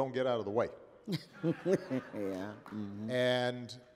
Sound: laughter

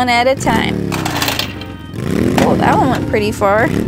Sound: engine revving

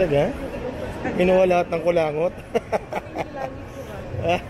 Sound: laughs

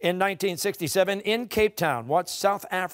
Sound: none

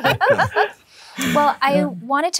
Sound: laughing

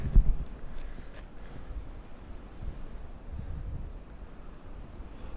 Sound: wind

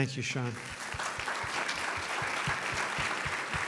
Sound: applause

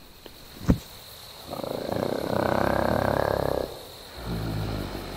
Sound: Bigfoot growls

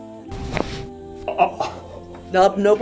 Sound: bones cracking

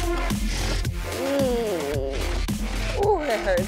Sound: moans

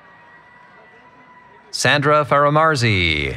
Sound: cheering

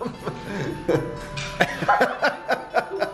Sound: laughing

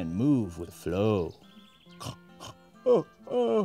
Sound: yawn

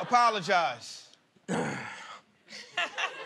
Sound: clears throat; laughter

